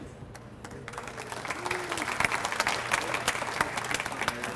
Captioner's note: audience applauds